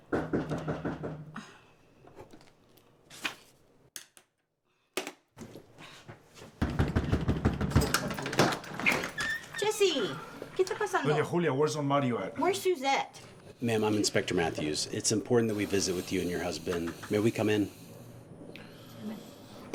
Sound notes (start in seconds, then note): 0.0 sudden knocking at the door; 6.6 knocking is getting louder; 10.2 Spanish